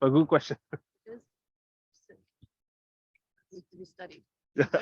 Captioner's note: audio cuts out